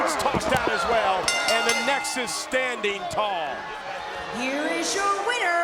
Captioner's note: bell dinging